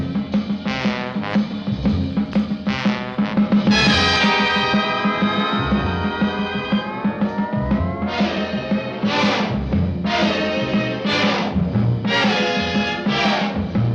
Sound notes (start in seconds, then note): none